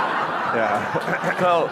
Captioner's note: audience laughing